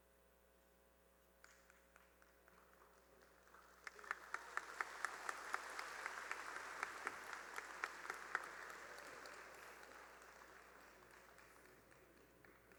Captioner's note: cheering and applause